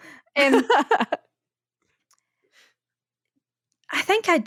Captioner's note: laughing